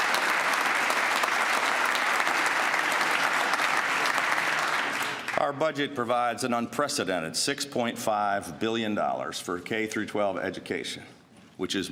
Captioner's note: applause